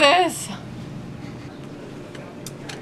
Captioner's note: sobs